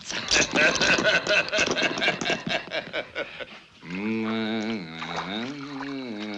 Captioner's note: يضحك